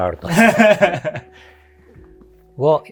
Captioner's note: laughing